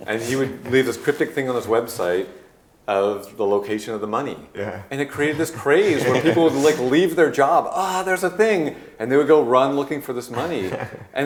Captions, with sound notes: and he would leave this cryptic thing on his website of the location of the money. - Yeah. (group laughing) - And it created this craze where people would leave their job, ah there's a thing! And they would go run looking for this money.